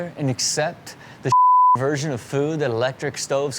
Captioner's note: beep